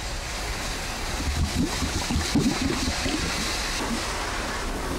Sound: water burbling

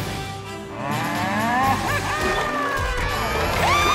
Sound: mooing

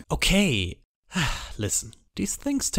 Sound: sighs

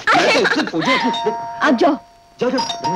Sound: door Bell

